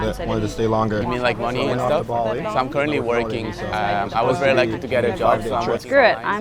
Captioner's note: people chattering